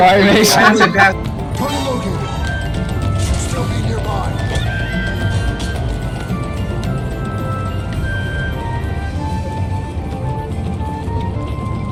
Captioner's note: laughing